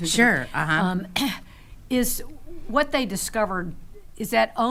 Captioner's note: clears throat